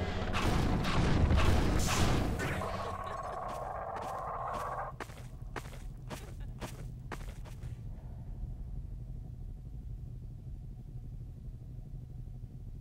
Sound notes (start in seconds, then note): 2.7 giggles